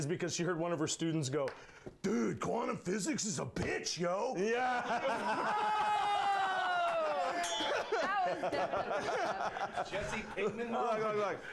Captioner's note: bell rings; laughter